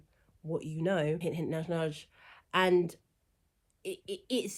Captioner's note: stammers